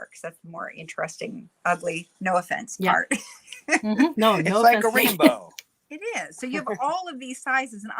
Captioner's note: um hum